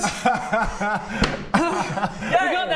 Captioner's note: laughs; hard-won sigh